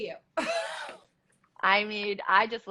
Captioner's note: laughs